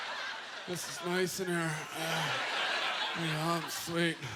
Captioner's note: audience laughter; grunting